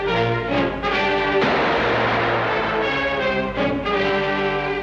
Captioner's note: gun fires